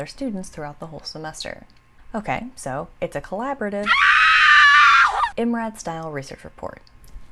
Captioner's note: scream